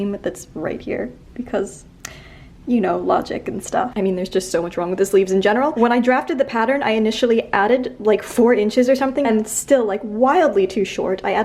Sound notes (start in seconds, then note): none